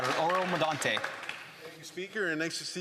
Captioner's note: applause